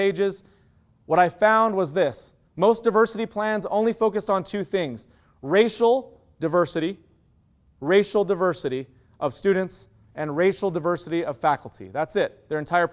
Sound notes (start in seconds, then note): none